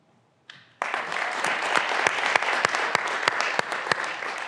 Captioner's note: graduands applauding